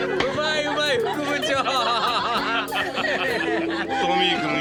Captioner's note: laughter